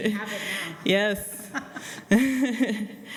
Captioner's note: laughs